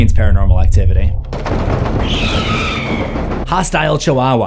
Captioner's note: banging; Marisol screams